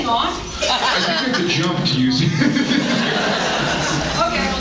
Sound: laughs

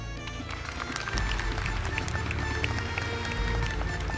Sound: audience applauding

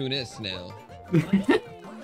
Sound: laughs

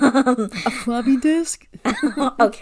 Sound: laughs

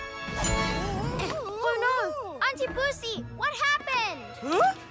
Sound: cries of distress

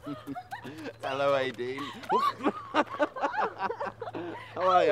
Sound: both laugh

